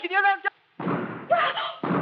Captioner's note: gunshot; gasps